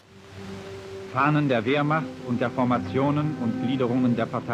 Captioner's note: speaking German